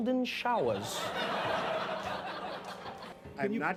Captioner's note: laughing